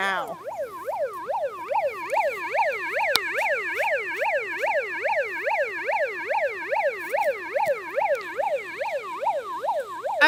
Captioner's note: siren sound